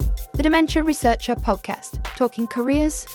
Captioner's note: voiceover